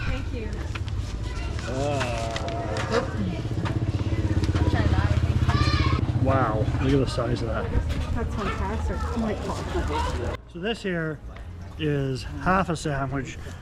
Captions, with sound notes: -thank you. -Ah. [speaks foreign language] -thank you. -Wow, look at the size of that. -That's fantastic. Oh, my God. [laughs] -So this here is half a sandwich.